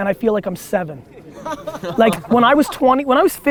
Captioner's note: group laughter